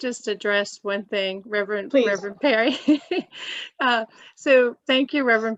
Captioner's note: laughs